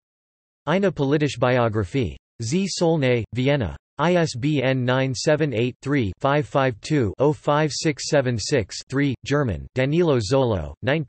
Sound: German

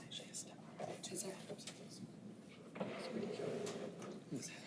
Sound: unmiced voices talking

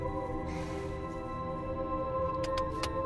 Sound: sighs

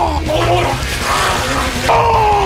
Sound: gurgle, glugh

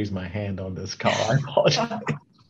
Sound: chuckles

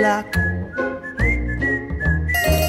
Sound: whistling

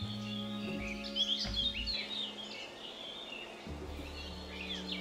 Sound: birds chirp

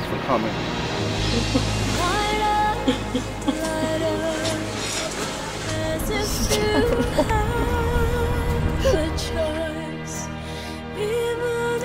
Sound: crying

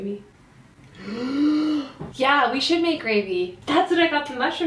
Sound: inhales

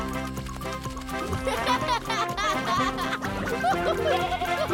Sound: laughing

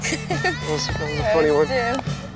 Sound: laughs

